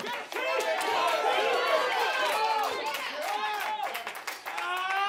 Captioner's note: audience cheers